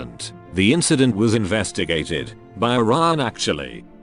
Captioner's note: none